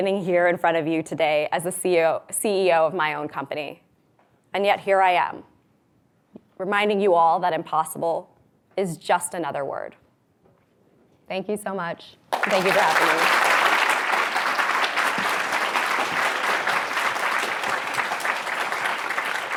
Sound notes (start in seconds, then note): 14.2 audience applause